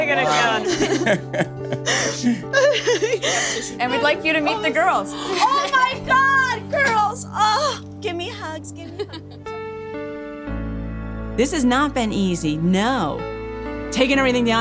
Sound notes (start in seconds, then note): 0.2 laughs; 2.8 sobbing; 8.1 laughing; 10.3 gentle music